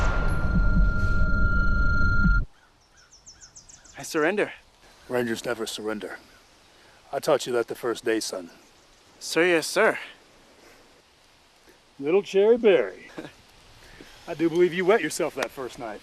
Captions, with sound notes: -I surrender. -Rangers never surrender. I taught you that the first day, son. Sir, yes, Sir. -Little Cherry Barry. -[chuckles] I do believe you wet yourself that first night.